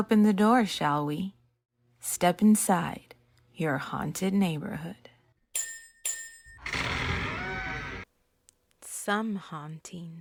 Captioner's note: ring ring , creaking fx